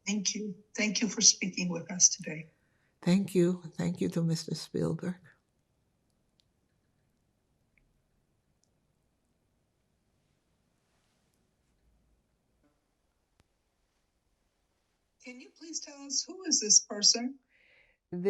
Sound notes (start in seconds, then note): 5.8 pause 9 seconds